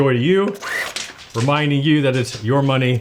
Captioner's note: machine whirs